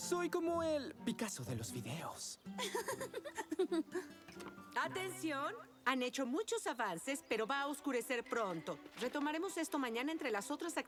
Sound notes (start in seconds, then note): 2.5 giggle